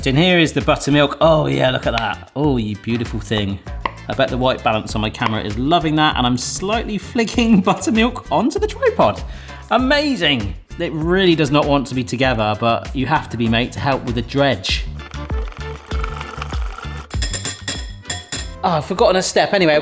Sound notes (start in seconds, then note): 14.7 whisk mixing; 17.3 whisk tapping